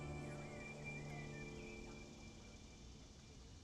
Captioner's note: birds chirping